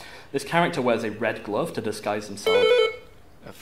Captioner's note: buzz